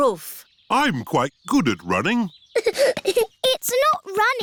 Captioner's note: giggling